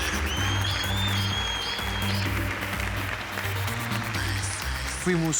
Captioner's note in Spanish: Silbidos; Aplausos